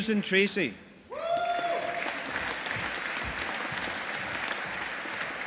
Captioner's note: audience applauding